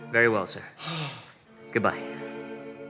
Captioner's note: exhales